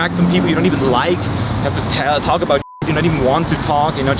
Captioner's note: beep